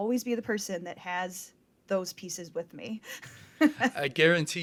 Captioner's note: chuckles